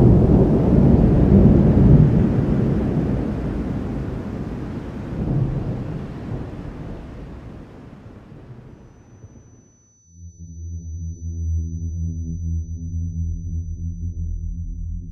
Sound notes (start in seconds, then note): 8.7 high electronic whine; 10.2 brooding ambient music